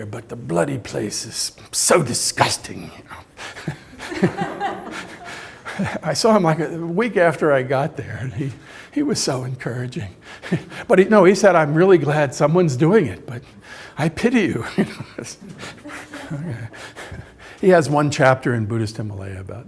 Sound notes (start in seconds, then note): 3.0 laughs; 3.5 audience laughs; 10.3 laughs; 14.4 laughs; 15.5 audience member laughs